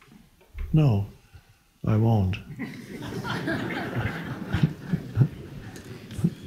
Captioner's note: audience laughs